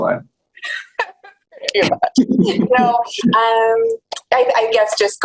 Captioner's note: laughs